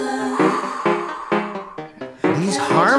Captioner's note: exhale